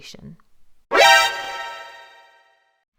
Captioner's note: Metal Gear Alert Sound!